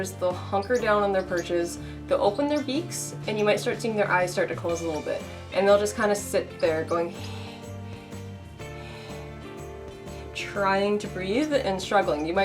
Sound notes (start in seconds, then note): 7.1 heavy breathing